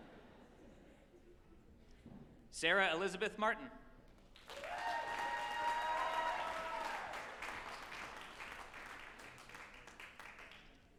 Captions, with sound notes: (group chuckling) Sarah Elizabeth Martin, (group applauding and cheering)